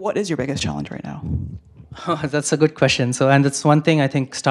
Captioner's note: laugh